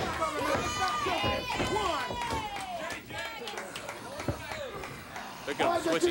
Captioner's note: crowd cheering